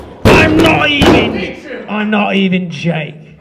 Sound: yelling

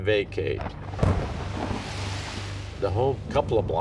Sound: thunder crashes

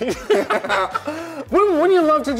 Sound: laughing

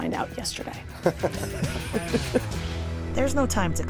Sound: laughter

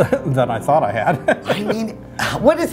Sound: laughing

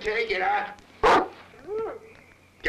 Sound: dog barks

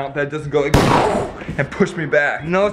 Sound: gunshot

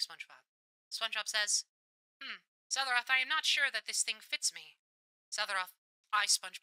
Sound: radio Filter

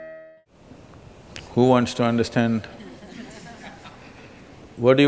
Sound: few Laugh

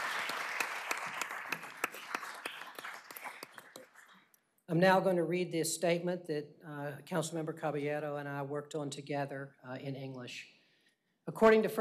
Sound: applause

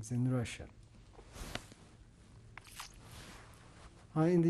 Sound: pauses for 3 seconds

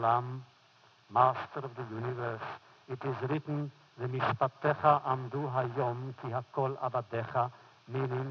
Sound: foreign language; foreign language

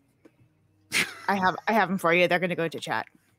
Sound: laughs

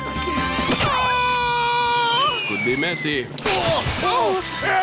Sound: yells

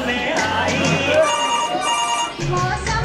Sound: phone Rings

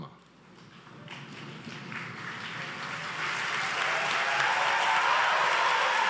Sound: audience applauds and cheers

